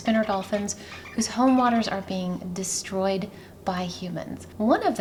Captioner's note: dolphin chatter